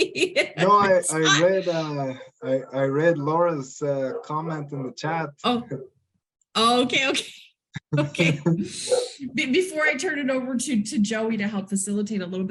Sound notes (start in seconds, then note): 0.0 laughs; 7.8 both laugh